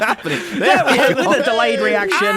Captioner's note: laughing